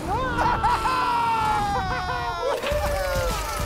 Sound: car engine roaring; both laughing

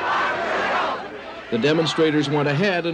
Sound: crowd chanting

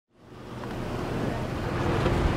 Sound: car pulling up

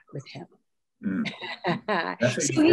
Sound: laughs

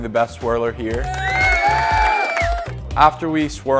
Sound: cheering & applause

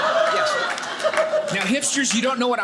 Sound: audience laughing

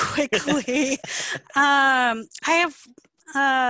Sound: laughing

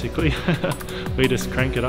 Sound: laughing

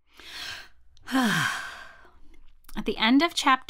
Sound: sigh

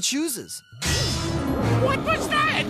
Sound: bang!

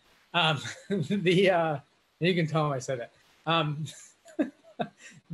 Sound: laughs

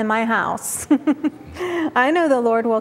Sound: giggles

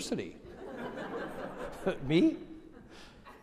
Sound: audience laughing

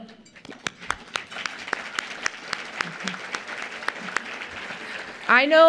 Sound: applause

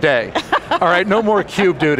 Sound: laughing

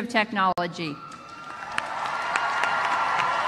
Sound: applause

